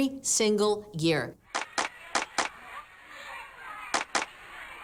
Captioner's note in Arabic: التصفيق بالأيدي